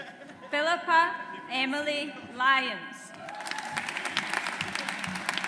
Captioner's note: audience applauds